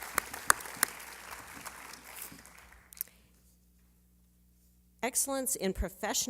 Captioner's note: applause